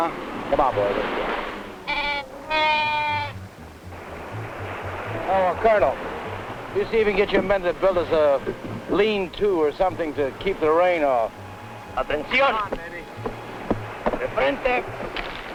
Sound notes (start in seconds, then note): 4.9 speaking spanish